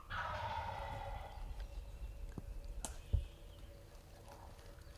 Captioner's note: tree limbs rustling